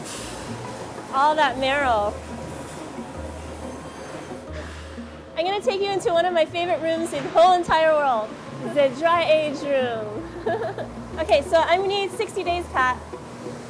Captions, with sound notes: All that marrow. I'm gonna take you into one of my favorite rooms in the whole entire world, the dry-age room. (laughs) Okay, so I'm gonna need 60 days, Pat.